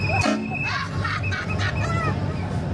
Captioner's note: whistle blowing; scare actor cackling; train horn sounding